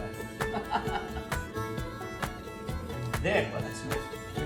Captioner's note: country Music; laughs